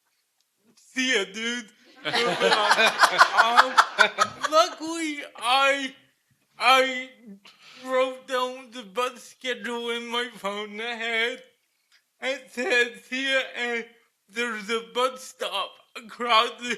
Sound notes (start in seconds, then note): 2.0 laughter